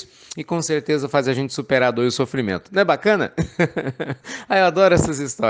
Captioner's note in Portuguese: Risos